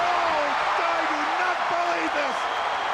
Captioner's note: crowd cheering